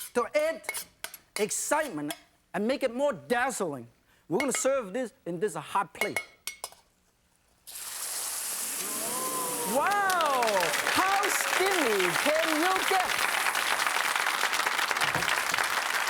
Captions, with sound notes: to add excitement and make it more dazzling, we gonna serve this in this hot plate. (sizzling sound) (audience oohs) Wow! How steamy can you get? (audience claps)